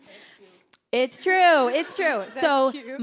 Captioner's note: audience laughing; laughing